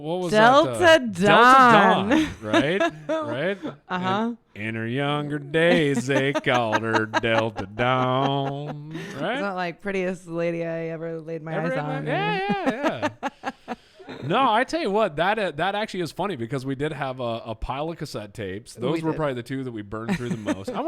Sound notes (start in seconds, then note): 11.5 laughs